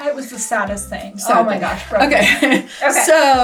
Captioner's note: laughs